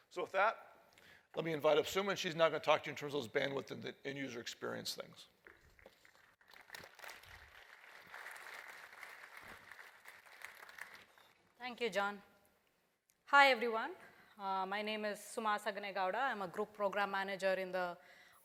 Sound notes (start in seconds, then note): 5.5 applause